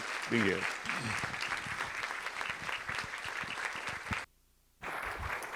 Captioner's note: audience applauding